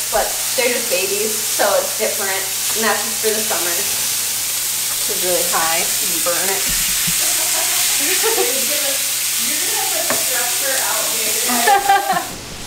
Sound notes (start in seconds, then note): 7.0 laughs; 9.4 cooking sound